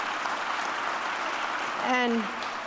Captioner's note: applause